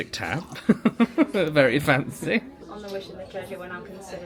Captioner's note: laughs